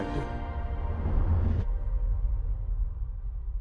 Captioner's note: loud closing sound